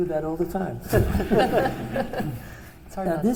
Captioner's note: laughter